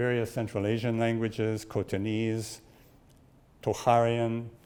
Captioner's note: speaks in foreign language